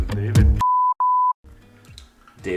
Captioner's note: beep, Beep